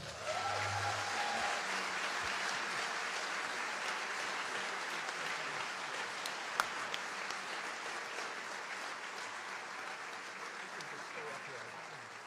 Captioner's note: applause